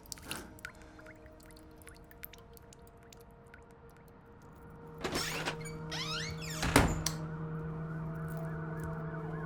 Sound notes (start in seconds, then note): 5.0 door squeaks; 7.0 sirens